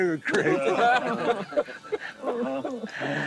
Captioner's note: laughs